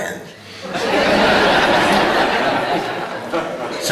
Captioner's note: laughter